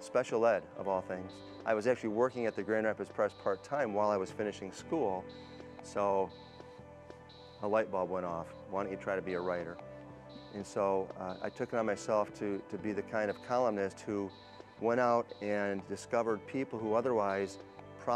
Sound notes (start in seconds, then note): none